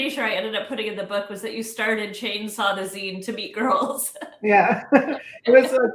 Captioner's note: laughs